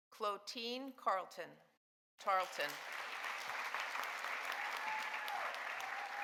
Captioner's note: audience applauding